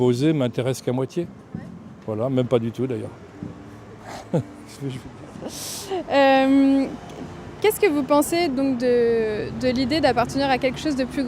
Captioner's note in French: rires